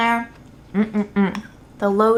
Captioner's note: humming